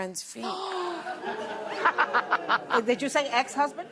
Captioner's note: laughter